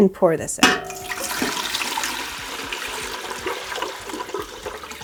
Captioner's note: liquid trickling